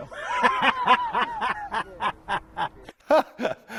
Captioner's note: laughs